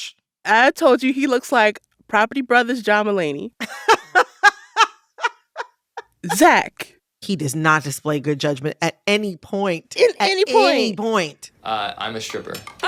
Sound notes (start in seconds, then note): 3.6 laughter